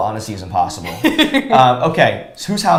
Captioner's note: laughs